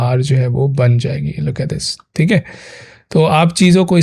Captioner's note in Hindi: अचानक ज़ोर से सांस लेने की आवाज़